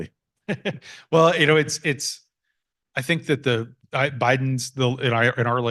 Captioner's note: laughs